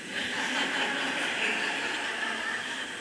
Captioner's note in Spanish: Risas